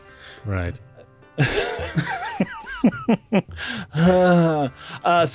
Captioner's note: laughs thinking about my mom